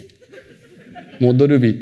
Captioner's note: laughter